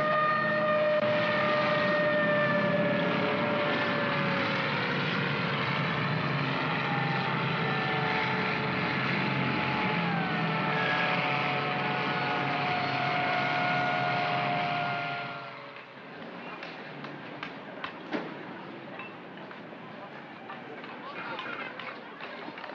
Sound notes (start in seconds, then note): 0.1 sirens wailing; 3.8 vehicles rumbling; 15.5 city street sounds